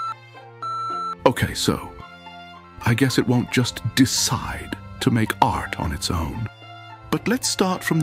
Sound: beeping

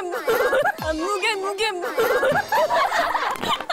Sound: starting to laugh

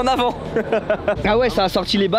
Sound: laugh

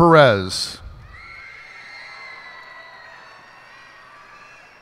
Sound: cheers and applause

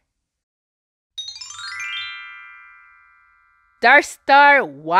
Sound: magic chimes

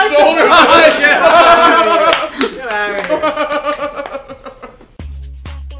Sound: laugh

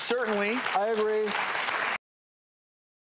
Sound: applause

